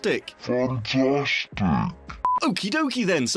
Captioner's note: beep